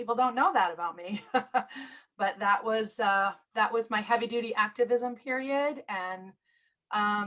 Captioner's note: laughter